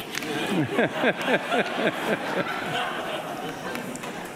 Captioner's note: audience laughing